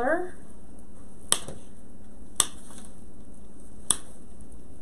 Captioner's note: snipping